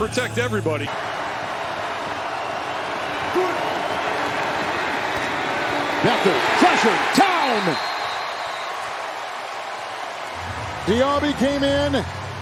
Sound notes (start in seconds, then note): 6.4 applause; 6.4 cheers